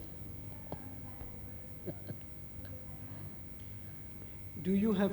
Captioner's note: shri mataji laughs